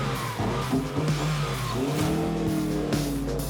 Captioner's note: car engine revving; upbeat music